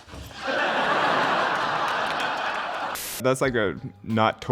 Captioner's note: audience laughing